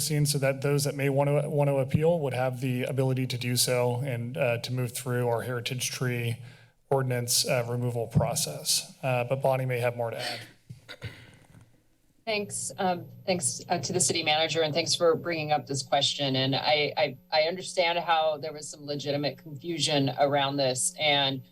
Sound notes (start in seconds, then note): 10.8 clears throat